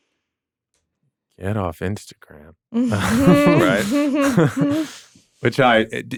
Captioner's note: laughs